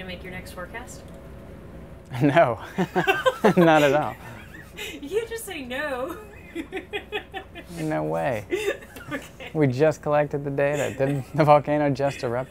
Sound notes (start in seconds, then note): 2.6 interviewer laughs; 2.6 laughs; 8.7 still laughing